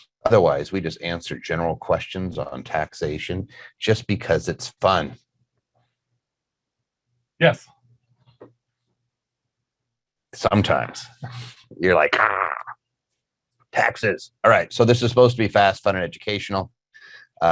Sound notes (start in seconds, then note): 12.2 growling